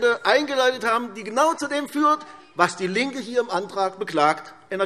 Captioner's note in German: none